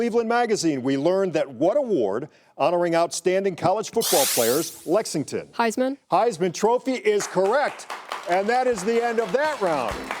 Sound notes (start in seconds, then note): 7.1 audience clapping